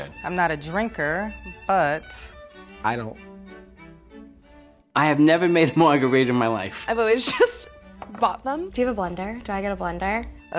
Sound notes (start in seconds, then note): 3.3 quirky orchestral music; 7.6 laughs